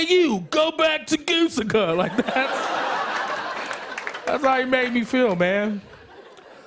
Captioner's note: normal voice